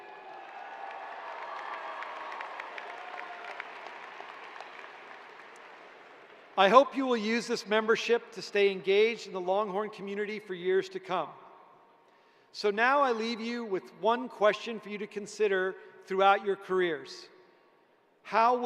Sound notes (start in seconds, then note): 3.1 cheers and applause